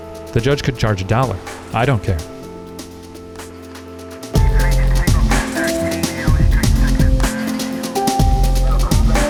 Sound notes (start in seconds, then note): 2.9 slow-paced electronic music; 2.9 static of walkie talkie